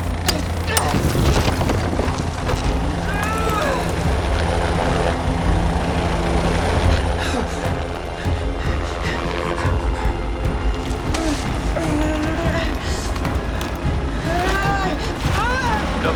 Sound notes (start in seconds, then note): 0.2 grunting; 0.8 helicopter blades whirring